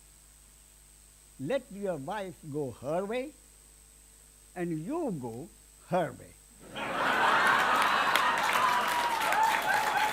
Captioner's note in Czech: smích a potlesk